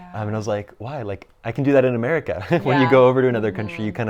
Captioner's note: laughs